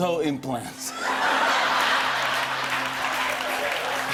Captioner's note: laughter; cheers and applause